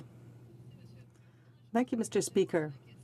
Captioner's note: speaking French